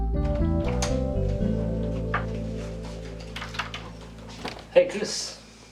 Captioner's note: door latch clicks